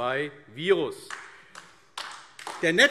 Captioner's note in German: Beifall AfD